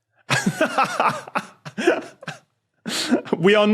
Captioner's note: laughs